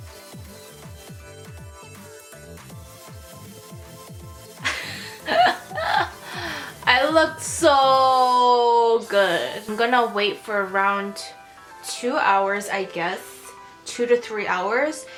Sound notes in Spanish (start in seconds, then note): 4.6 más risas